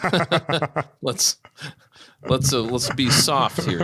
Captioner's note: laughing